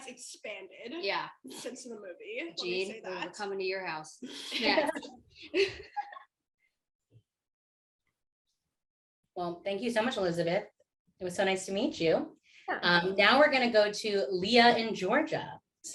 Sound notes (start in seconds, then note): 5.4 laughter